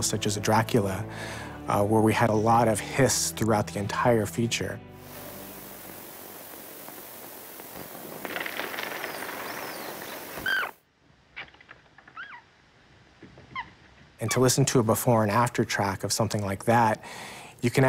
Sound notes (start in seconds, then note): 4.9 static hissing; 10.4 rat squeaks; 10.7 coffin clatters; 10.7 hiss silences; 12.1 rat squeaks